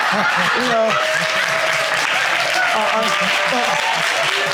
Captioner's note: audience laughing